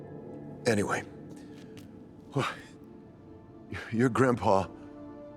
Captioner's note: eerie music; sighs